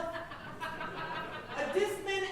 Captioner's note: audience laughing